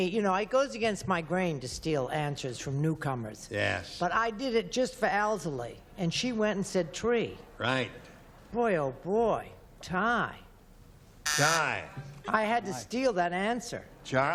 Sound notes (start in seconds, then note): none